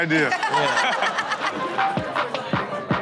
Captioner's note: everyone laughs